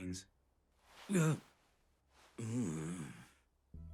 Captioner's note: exclaims